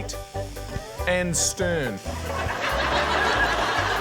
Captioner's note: laughter